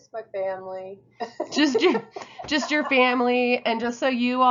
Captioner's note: laughs